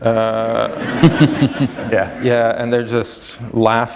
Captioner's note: laughter